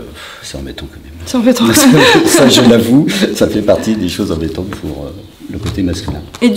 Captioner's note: laughter